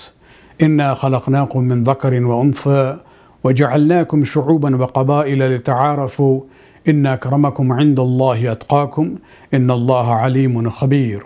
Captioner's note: arabic